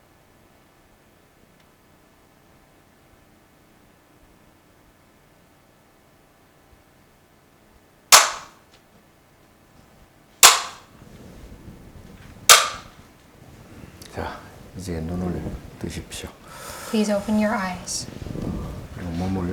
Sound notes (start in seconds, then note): 8.6 bamboo stick clacking; 14.6 speaking Korean